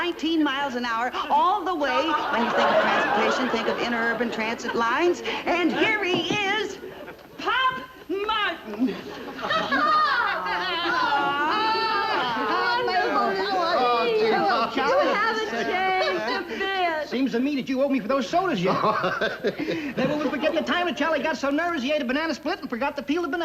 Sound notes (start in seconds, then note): 9.5 excited chatter; 18.5 laughing